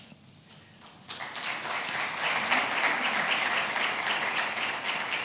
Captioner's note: attendees applauds